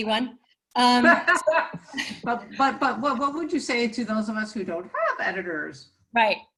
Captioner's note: laughs